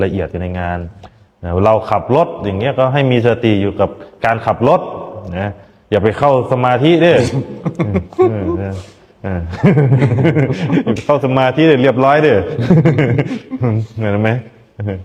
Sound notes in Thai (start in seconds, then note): 7.1 เสียงหัวเราะ